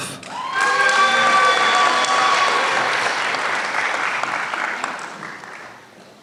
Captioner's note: applause